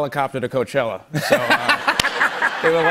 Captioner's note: laughter